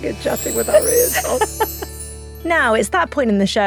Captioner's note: laughs